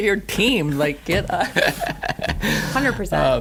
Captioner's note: laughter